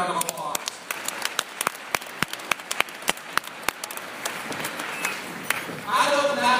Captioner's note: applause